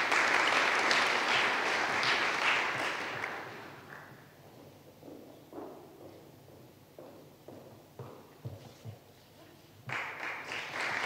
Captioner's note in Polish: oklaski